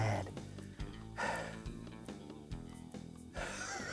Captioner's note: sighing; laughing